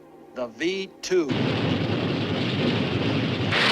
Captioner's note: engine roaring